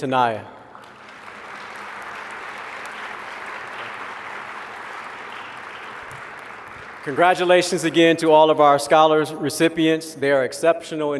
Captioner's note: applause